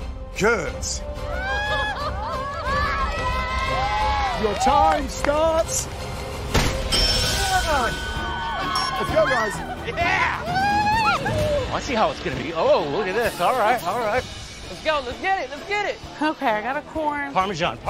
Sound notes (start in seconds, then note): 1.2 cheering; 6.9 bell rings